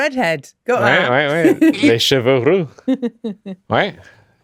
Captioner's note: speaking french